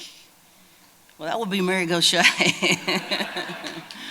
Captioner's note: laughter